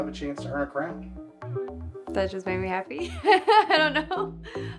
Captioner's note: laughs